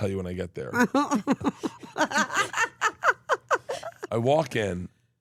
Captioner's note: Steph laughs